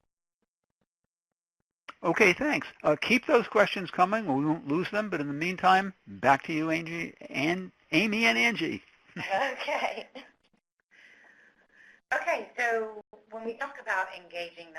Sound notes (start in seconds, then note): 9.2 chuckles